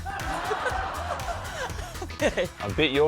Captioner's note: laughs